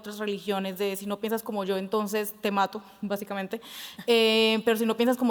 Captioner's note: speaking Spanish